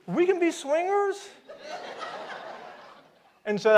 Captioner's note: audience laughs